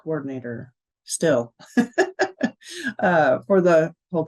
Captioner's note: chuckling